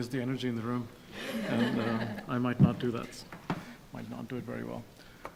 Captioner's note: audience laughing